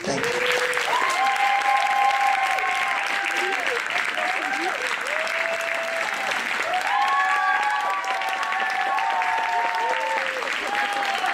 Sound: applause

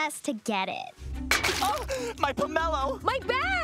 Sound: gasping

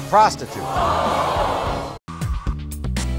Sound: audience screaming

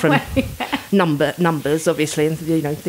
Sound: laughing

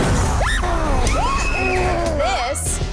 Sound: contestants scream

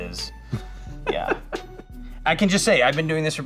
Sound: laughing

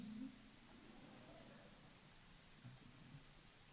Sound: audience laughs

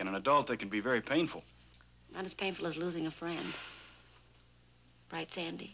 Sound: none

